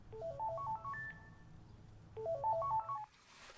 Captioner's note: phone ringing